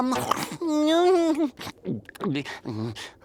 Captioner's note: moaning